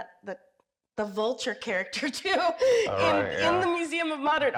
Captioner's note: laughs